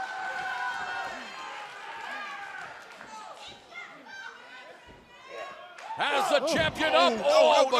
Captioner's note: cheers and applause